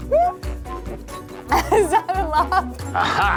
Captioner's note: laughs